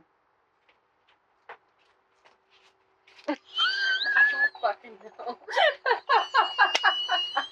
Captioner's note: doubled over laughing